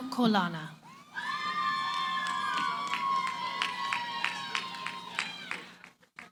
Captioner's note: cheering, applause